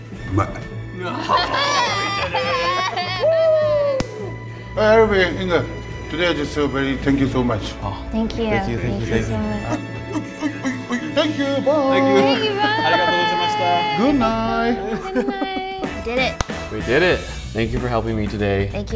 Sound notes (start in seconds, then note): 0.6 speaking foreign language; 1.0 laughing